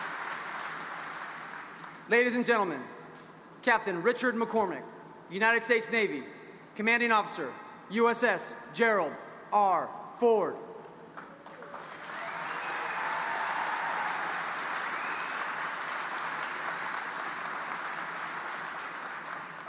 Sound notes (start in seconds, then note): 11.2 audience applauding